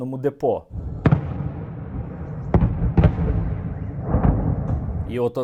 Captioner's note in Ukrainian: чутно звуки вибухів